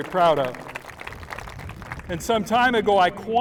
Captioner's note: applause